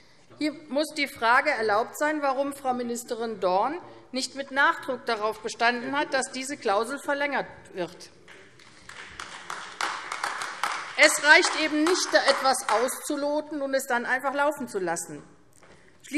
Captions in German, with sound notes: Hier muss die Frage erlaubt sein, warum Frau Ministerin Dorn nicht mit Nachdruck darauf bestanden hat, dass diese Klausel verlängert wird. [Beifall AfD] Es reicht eben nicht, etwas auszuloten, um es dann einfach laufen zu lassen.